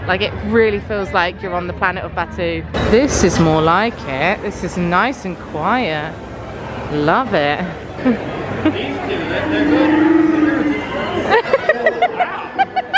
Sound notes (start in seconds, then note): 9.3 Chewbacca roaring; 11.3 laughing